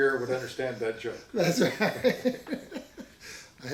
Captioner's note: laughs